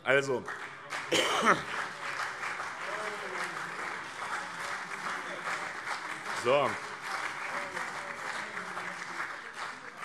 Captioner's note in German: Heiterkeit - : Oh, oh, oh!